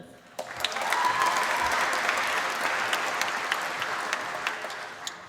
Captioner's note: applause